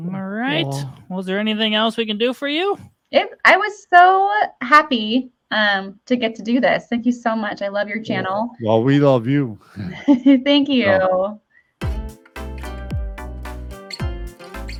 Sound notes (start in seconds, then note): 9.7 chuckles; 11.8 upbeat music